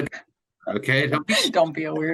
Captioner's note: laughing drowns out speaker